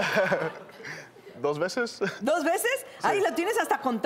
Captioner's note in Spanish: Risas